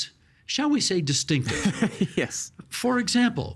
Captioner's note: laughing